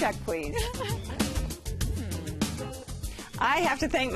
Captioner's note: laughs